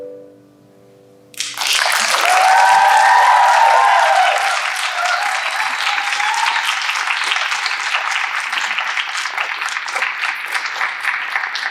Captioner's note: applause